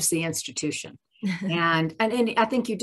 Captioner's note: chuckles